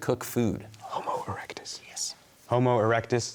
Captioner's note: whispering